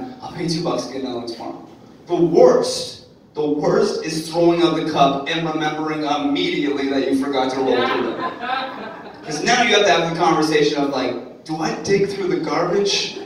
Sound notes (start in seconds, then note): 7.6 audience laughing